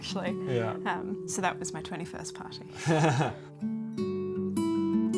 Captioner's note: chuckles